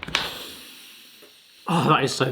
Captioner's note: hands slapping; inhaling deeply